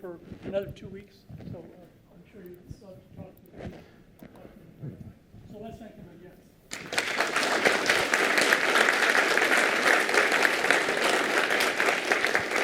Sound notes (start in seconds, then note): 6.7 applause